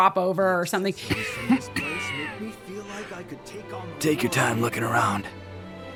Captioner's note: coughs